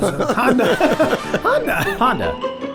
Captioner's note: group laughs; classical music